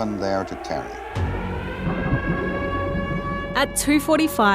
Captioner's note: siren blares